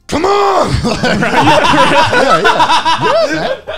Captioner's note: laughing